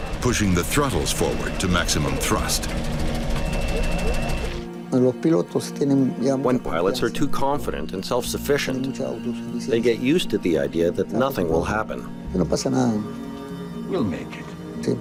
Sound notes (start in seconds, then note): 4.9 speaking in Spanish